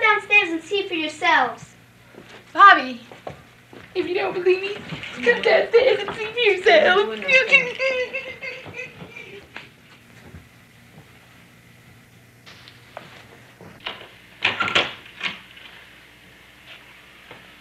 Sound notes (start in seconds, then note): 4.2 mocking; 14.4 door opening